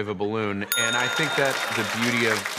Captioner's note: ding